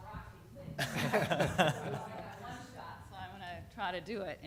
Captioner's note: laughter